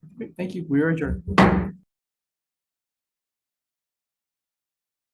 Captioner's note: gavel thudding